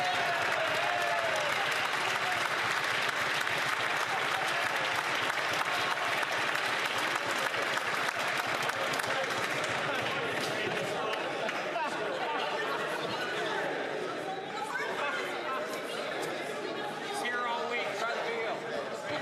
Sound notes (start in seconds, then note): 6.0 some Applause